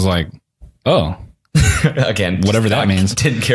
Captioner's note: laughs